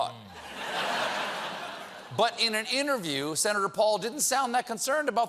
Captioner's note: laughter